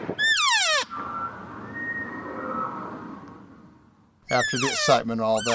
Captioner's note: bull Elk Bugle Response